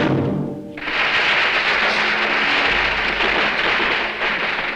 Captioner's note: firecrackers popping